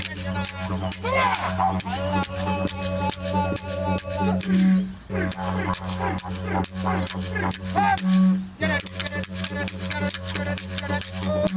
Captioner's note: foreign Language